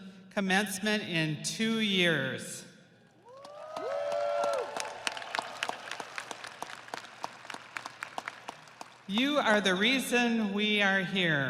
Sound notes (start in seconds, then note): 8.9 audience applauding; 8.9 audience cheering